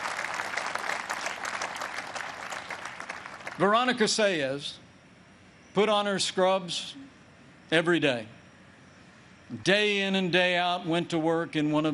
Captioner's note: applause